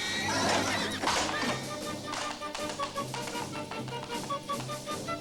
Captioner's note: horse neighing, whip cracking